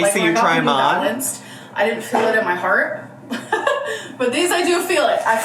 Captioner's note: laughs